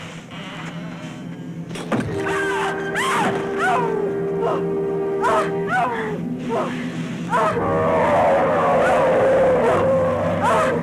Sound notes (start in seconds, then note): 2.3 screaming; 7.3 roaring